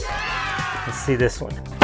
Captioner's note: canned audience cheering